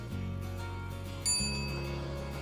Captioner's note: ding